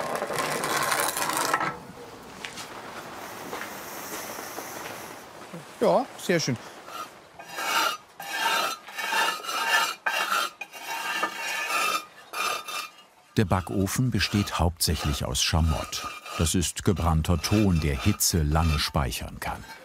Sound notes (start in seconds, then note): 7.4 hollow scraping noises